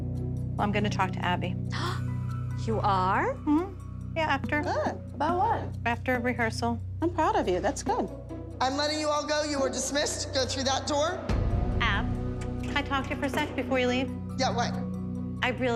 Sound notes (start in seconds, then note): 1.8 gasps